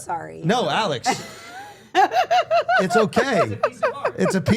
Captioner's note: Steph laughing